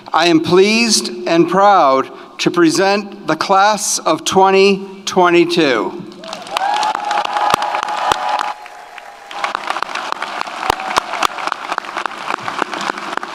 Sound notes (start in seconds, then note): 6.2 audience cheers; 6.2 audience applauds